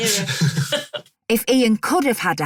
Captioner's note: chuckling